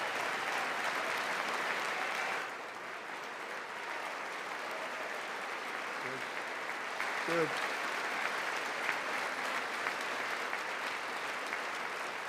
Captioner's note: applause